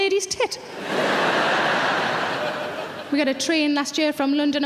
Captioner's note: audience laughing